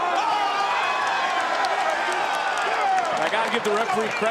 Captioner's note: audience cheering